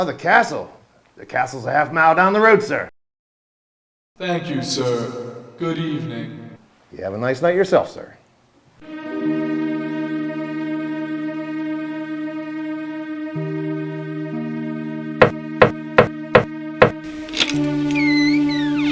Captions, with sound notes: Oh, the castle? The castle's a half a mile down the road, sir. - Thank you, sir. Good evening. - You have a nice night yourself, sir. (anxious monotone music) (door knocks)